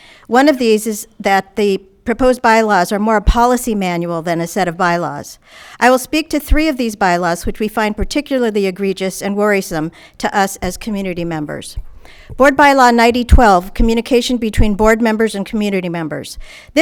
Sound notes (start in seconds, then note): none